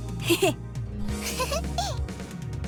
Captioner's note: chuckle